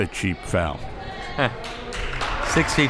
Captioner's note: laughs